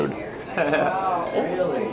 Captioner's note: laughs